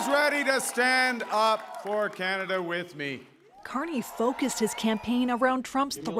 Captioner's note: cheers and Applause